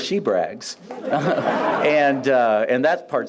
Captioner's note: laughs